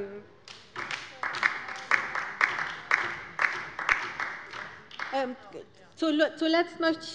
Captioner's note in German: Beifall bei der LINKEN